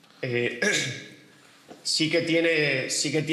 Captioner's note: clears his throat